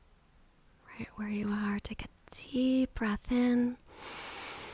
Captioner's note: inhaling